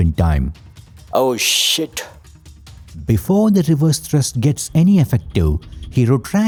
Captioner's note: panicked, yelling